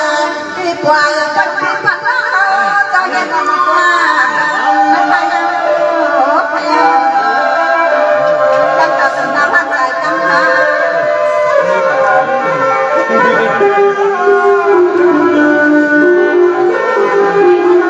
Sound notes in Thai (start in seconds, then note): 10.8 ปรบมือ